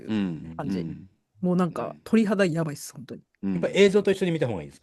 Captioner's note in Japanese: 咳払い